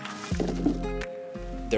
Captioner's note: crunching and pattering